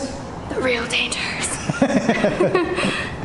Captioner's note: laughter